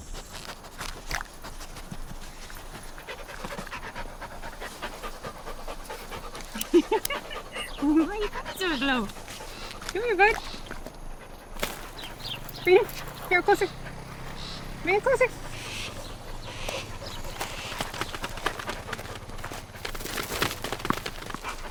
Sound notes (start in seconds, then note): 0.2 dog panting; 6.4 woman laughing; 9.4 bird squawking; 11.1 dog panting; 15.6 bird squawking; 17.5 dog running